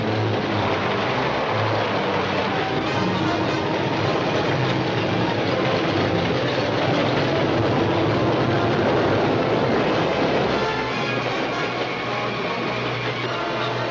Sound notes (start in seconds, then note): 0.1 train clacking; 8.1 train rumbling